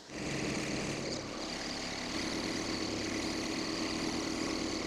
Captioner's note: engine purring